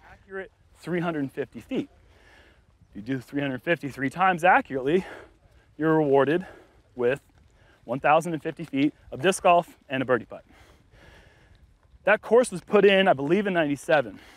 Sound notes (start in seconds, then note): none